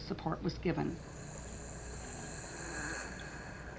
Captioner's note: labored Breathing